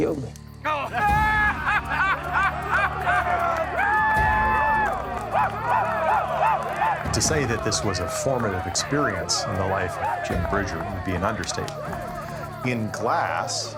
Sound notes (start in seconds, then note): 0.8 everybody starts laughing; 4.8 everybody cheering, clapping